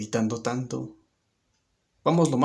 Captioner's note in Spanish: Silencio